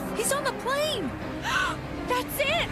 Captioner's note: gasp